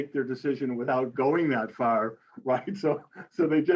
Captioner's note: laughs